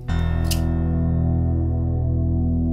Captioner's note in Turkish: Anahtar şıngırtısı